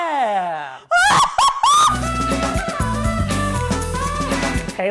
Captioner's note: Lana screaming